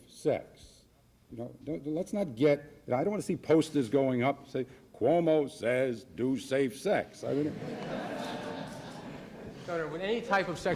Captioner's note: laughs